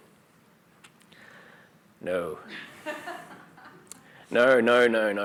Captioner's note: laughter